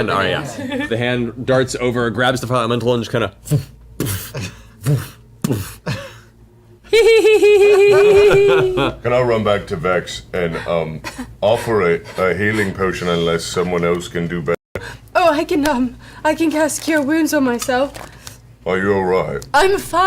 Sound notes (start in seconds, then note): 3.5 sound of throwing and catching